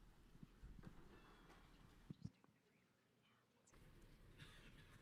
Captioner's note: faintly speaking